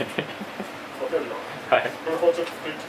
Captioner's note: laughs